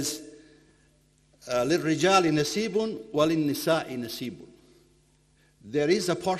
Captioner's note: speaking in foreign language